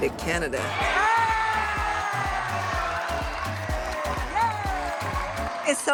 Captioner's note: cheering